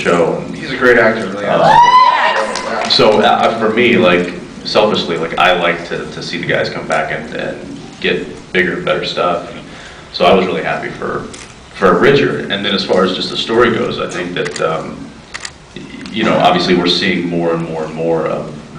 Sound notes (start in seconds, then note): 1.6 cheers, screams